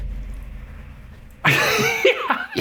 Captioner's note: laughing